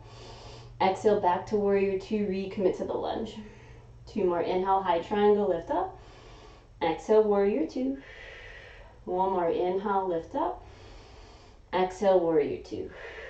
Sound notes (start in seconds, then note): 0.1 inhaling; 3.4 exhaling; 8.0 exhaling; 8.0 inhaling; 12.9 exhaling; 13.0 inhaling